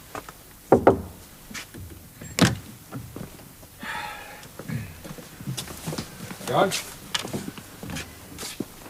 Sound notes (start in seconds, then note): 0.7 knock at door